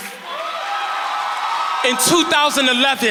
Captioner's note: crowd cheering